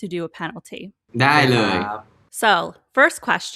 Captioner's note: in Thai